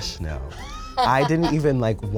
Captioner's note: laughs